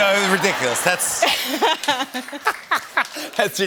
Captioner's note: laughter; both laugh